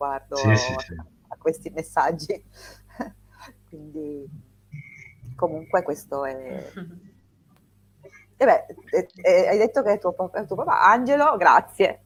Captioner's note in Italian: risate